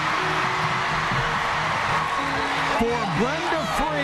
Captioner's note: crowd cheering